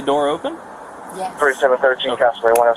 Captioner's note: radio chatter